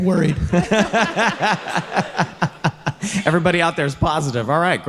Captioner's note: all laughing